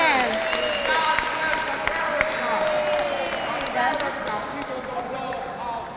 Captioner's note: applause